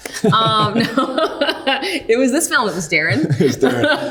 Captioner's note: Austin laughing; laughing